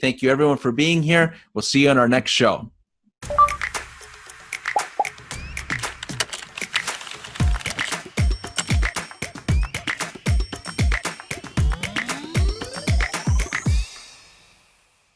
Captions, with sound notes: Thank you everyone for being here. We'll see you on our next show. (upbeat music) (keyboard clacking)